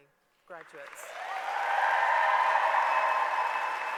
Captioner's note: applause